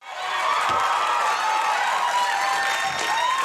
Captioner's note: audience shouts